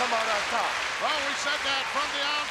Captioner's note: audience applauding